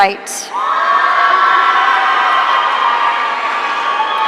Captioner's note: audience cheering